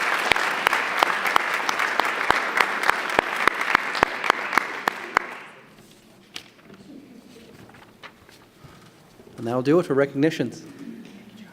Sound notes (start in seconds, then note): 6.4 applause